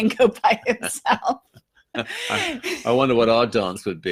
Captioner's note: laughing